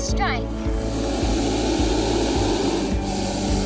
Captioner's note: hissing